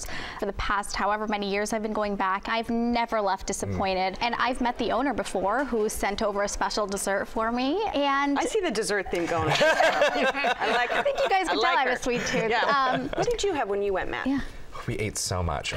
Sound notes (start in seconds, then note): 9.1 laughter